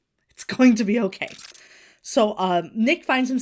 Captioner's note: audio glitches